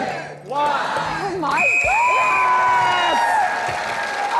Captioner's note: blows whistle